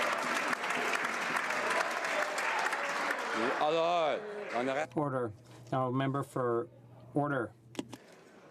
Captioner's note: some Applause